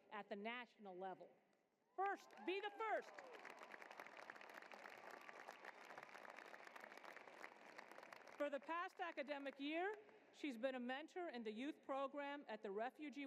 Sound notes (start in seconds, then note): 5.5 applause